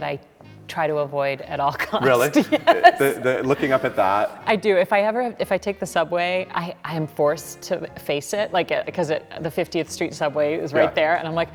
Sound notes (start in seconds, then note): 1.7 laughing